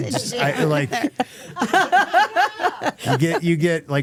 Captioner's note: Stephanie laughing